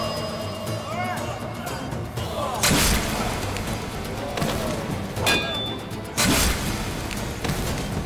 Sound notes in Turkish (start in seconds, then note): 2.0 Dövüş sesleri